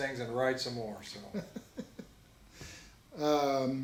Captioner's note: laughs